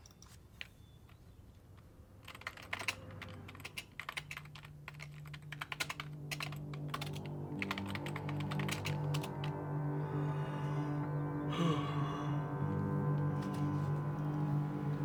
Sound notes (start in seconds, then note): 6.6 ominous music; 11.4 Nathan yawns